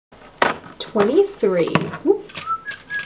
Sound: whistles

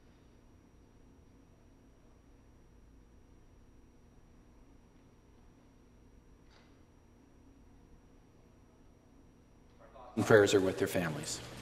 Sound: moment of silence

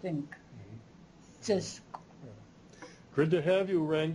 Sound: non-english

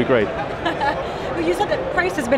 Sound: laughs

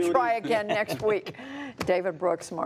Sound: laughter

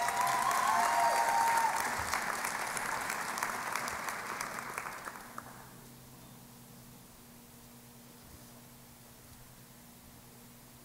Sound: applause

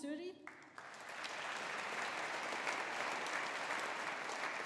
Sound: audience applauding

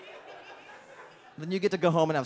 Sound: audience laughs

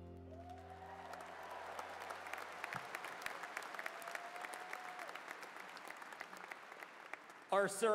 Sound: cheers and applause

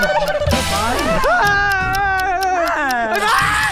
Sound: screams

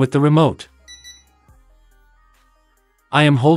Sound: beep Sound

